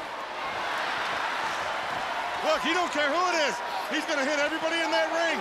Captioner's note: crowd cheering